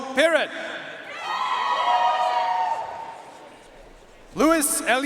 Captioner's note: audience cheering and applauding